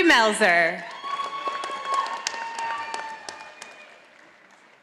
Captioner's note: audience applauding